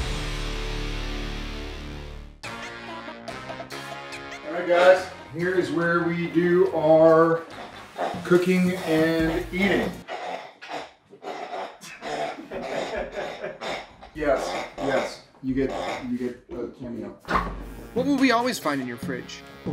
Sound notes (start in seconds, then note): 0.2 upbeat music; 11.2 dog squeaking toy